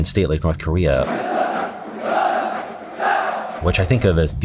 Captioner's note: North Korean soldiers chanting in foreign language